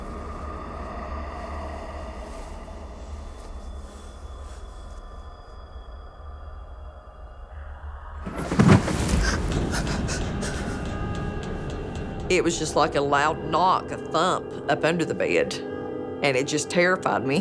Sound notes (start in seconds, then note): none